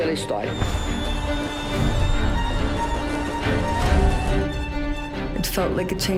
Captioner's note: crowd cheering